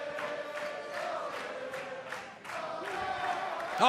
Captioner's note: fans chanting